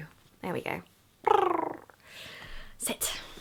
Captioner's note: purrs